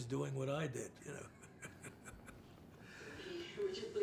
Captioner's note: laughs